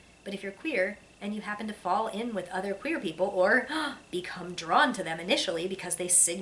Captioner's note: gasp